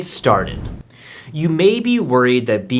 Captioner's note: air whooshing